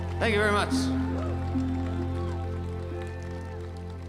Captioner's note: crowd clapping and cheering